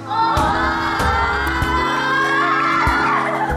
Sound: awkward screaming

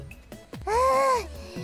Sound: sigh of relief

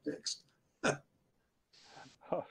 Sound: laughs

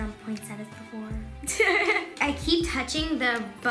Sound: laughing

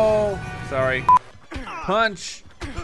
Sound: beep

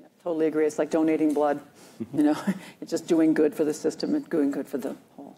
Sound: laughs

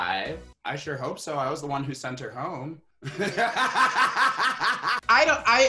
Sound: laughs

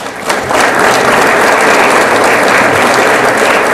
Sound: audience applauds

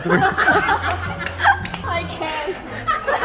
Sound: laughs

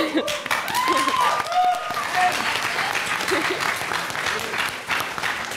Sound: applause

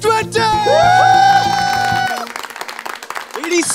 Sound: all cheering and applauding

